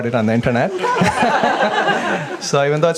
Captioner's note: audience laughs